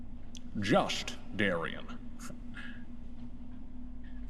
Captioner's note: bad Scottish accent